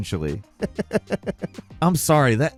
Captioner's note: falcon chuckling